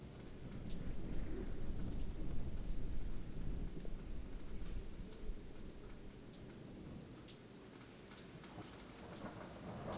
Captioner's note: sound of crickets